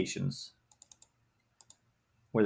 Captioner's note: mouse clicks